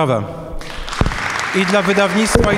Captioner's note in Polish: oklaski